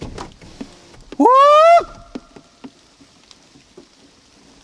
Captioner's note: whooping